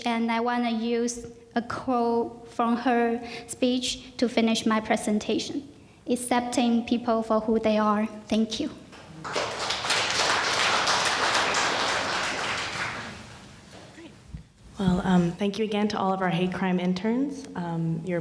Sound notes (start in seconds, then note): 9.0 audience applauding